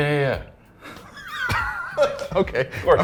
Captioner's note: laughing